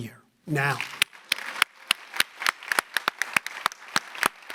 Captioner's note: audience applauding